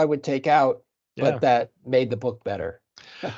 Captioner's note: chuckling